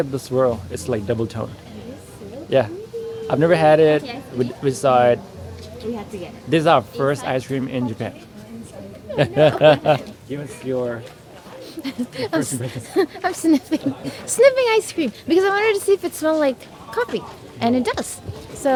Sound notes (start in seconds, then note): 9.1 laughter